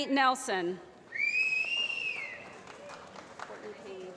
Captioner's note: applause